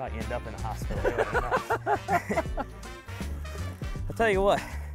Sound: laughs

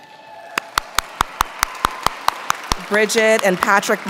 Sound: audience clapping

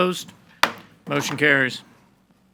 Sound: gavel bangs

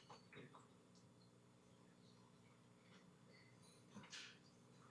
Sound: whispering

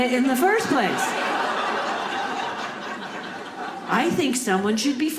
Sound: audience laughing

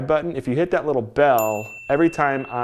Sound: bell dings

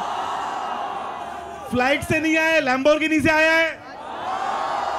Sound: non-english speech

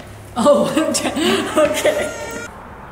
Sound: giggling; both laughing

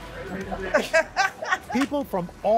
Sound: laughter

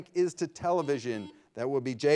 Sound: buzzer ringing

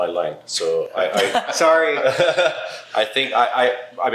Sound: laughs

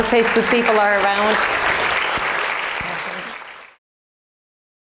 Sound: applause

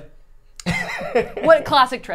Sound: laughs

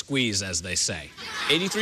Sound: laughter

